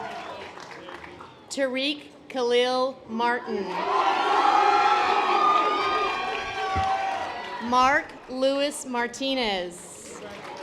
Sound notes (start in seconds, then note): 3.8 audience applause